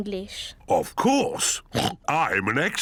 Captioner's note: oinks